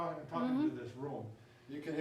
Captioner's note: woman off screen mumbles in agreement